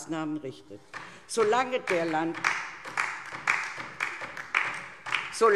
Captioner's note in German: Beifall DIE LINKE